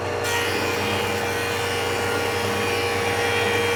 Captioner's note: saw buzzing